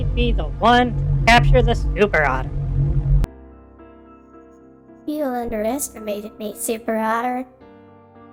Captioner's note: in a surprisingly deep voice